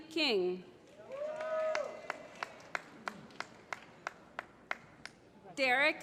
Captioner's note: applause